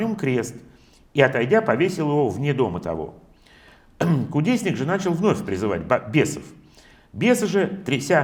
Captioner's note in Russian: откашливается